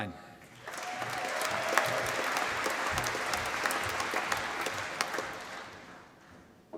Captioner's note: applause